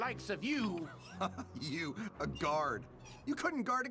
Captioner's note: chuckles